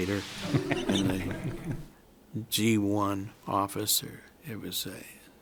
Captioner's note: laughter from room